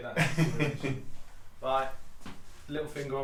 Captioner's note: someone off camera laughs